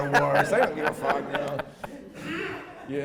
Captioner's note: laughing